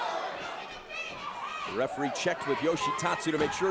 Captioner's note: crowd chatter